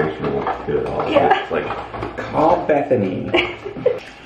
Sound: laughs

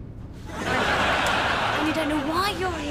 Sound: audience laughs

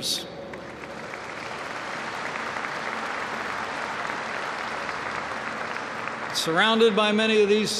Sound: applause

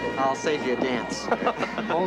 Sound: laughing

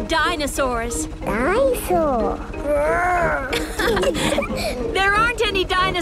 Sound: laughing

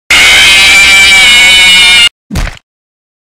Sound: screams

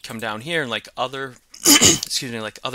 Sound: instructor coughing

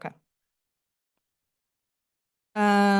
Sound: pause

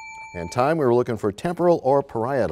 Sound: bell rings, time expires

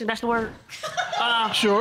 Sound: audience laughing

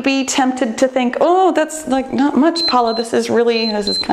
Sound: timer beeps

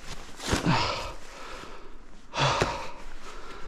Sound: sighs

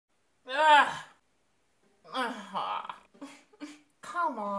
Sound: frustrated noises

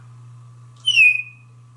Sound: tweet

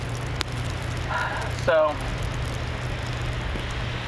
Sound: exhaling

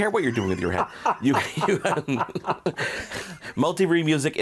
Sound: all laughing

